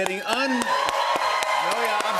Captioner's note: cheers and applause